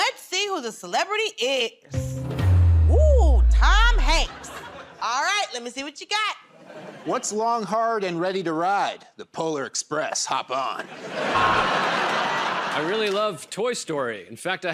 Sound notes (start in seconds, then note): 2.0 suspenseful sting plays; 6.5 laughter; 10.8 laughter and applause